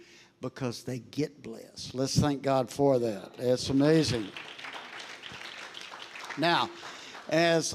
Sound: congregation applauding

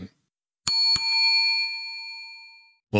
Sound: bell dings

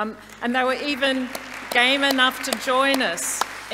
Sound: audience applauding

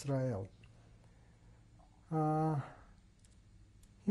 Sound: pauses for 3 seconds

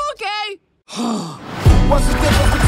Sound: sigh

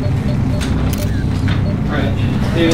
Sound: camera clicking

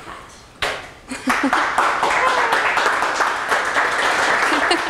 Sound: applause

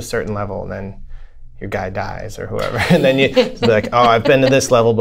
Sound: laughter

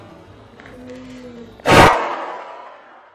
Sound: large bang

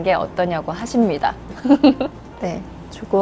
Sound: chuckle

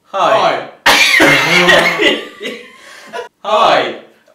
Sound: laughing

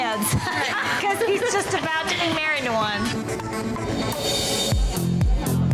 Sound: laughs

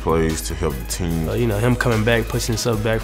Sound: voiceover

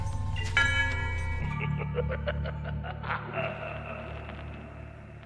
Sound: bells and evil laughter

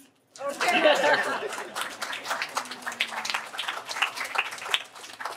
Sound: laughter

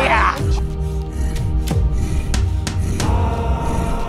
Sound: Mohuru hyperventilating

